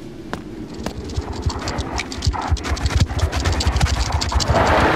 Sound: scorpion scurries

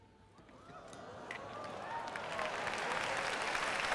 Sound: applause

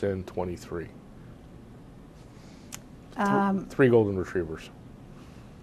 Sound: pauses for 3 seconds

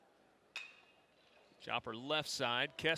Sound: ball hitting bat

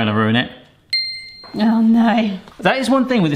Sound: ping

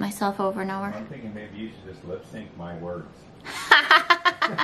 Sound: laughter

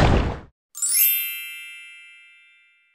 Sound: whoosh sound

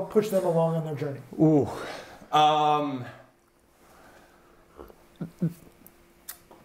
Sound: sighs

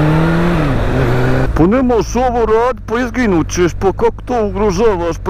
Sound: thick accent

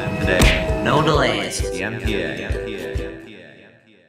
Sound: echos

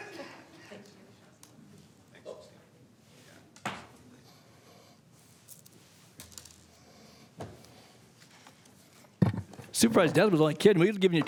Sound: laughter

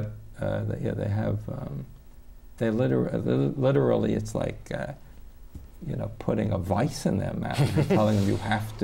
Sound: laughter

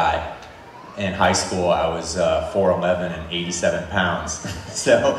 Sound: chuckles

